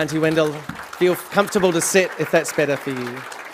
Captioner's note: applause